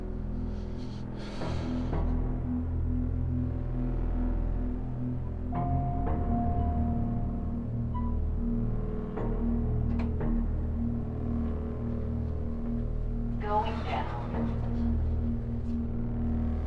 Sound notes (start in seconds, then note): 0.6 sighs; 7.9 elevator beeping; 13.3 elevator voice